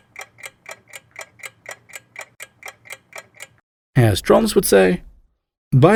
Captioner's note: clocking ticking loudly